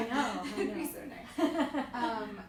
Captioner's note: laughs